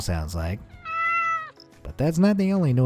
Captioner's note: cat meowing